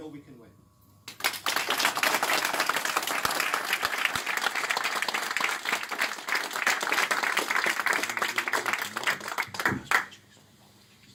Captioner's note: applause